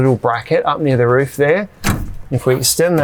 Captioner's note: bracket thuds